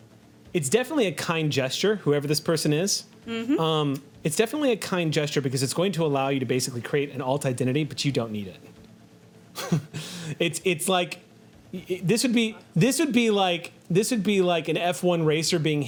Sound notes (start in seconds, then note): 9.6 laughs